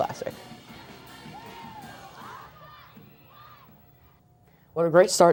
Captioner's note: NATS up: Chanting